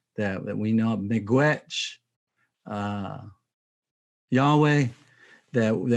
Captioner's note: speaking in Native language